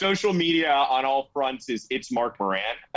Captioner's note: group laughing